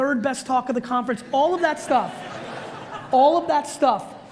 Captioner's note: audience laughs